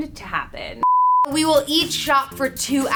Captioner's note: beep